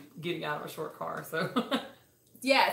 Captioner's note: laughs